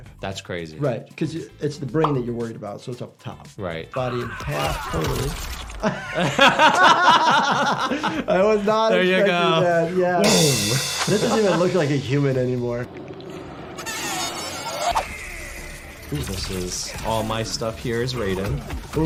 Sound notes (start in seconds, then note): 5.6 both laugh; 10.2 cymbals crash